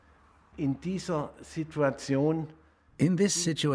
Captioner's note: speaking German